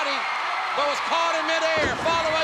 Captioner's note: spectators cheering